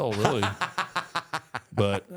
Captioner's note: Michael laughs